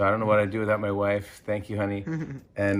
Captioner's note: chuckle